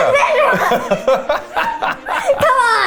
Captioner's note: laughing